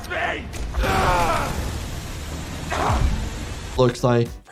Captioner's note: Doey grunts